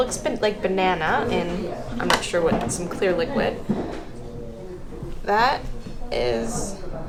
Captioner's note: none